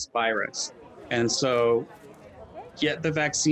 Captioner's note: people chattering